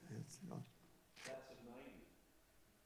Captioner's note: speaking faintly